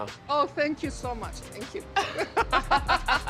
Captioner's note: laughs